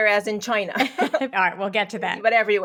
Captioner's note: laughing